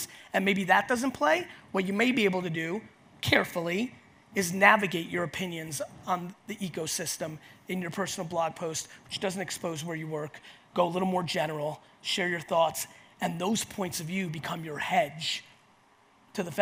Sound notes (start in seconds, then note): none